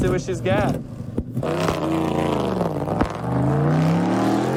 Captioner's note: engine revving